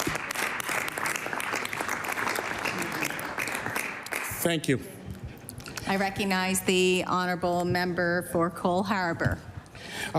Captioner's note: applause